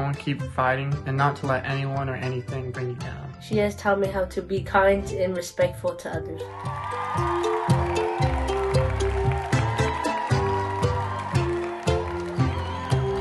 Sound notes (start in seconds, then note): 6.4 crowd cheering; 7.2 cheerful music